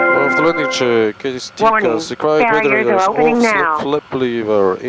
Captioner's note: speaking in foreign language